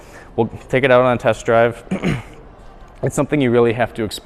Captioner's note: clears throat